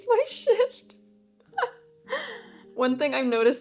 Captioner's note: laughs